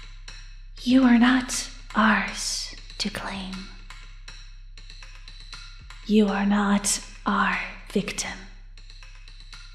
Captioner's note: echoing